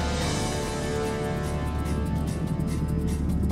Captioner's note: strong blasts of air